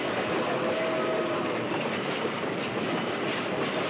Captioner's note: whistle Blowing